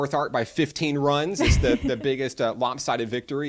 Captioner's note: chuckles